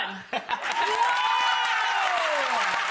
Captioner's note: crowd cheers